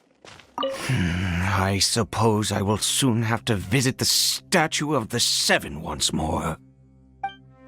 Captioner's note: sigh